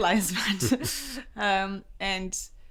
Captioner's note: laughs